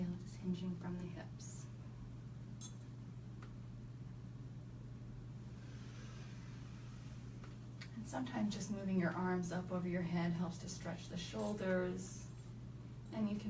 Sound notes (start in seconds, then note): 5.4 inhaling deeply